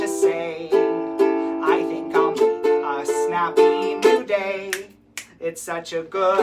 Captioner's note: snap, snap